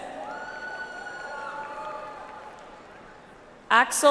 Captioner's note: audience applauds